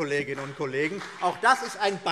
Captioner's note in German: Beifall CDU und BÜNDNIS 90/DIE GRÜNEN